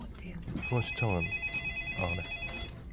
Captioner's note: phone ring